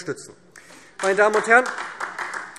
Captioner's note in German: Beifall SPD